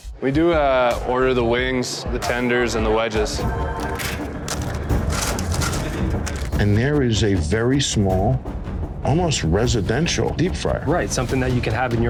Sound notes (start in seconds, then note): 3.6 suspenseful music; 4.4 bag crinkling